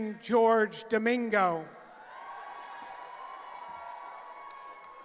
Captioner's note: cheering